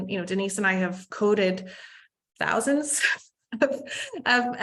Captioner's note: laughs